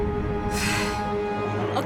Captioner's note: sighs